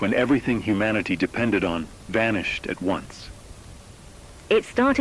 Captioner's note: softly, through static